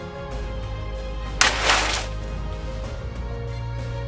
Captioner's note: rustling crash